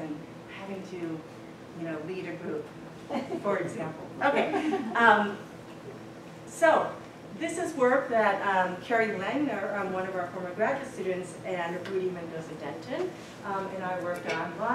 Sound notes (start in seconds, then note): 4.4 laughter